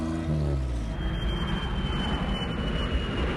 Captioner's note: airplane Engine